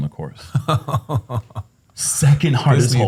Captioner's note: chuckles